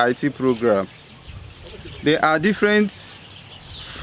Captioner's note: birds chirping